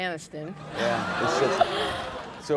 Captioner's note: audience laughs